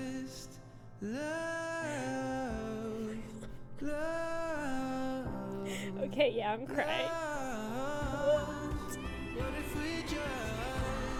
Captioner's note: crying; sobbing